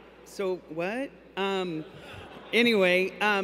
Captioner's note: laughter